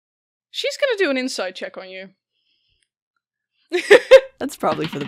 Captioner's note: laughing; laughs